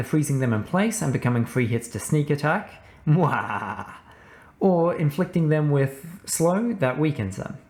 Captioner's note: mwahahah